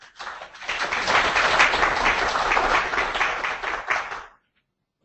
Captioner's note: applause